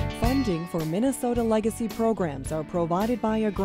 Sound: voiceover

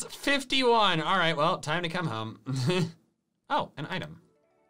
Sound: laughs

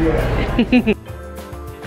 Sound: laughs; upbeat music

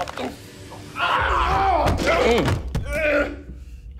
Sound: both yelling

